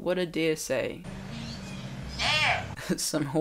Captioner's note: deer bleats